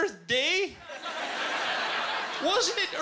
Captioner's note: laughter